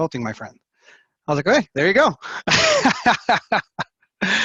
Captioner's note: laughs